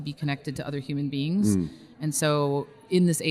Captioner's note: hums in agreement